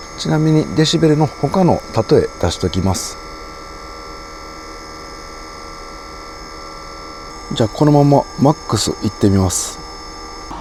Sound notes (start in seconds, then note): 6.0 vacuum cleaner sound; 7.1 ambulance siren